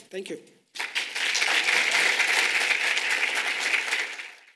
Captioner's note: audience applauding